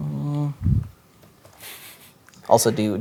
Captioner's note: chuckles